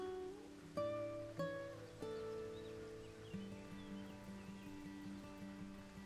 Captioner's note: gentle music; birds chirping